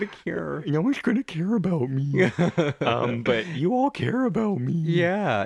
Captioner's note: laugh